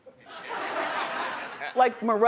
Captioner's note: audience laughing